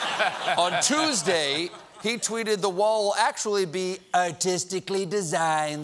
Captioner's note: laughter